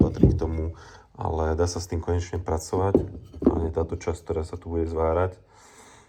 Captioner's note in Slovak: smrkanie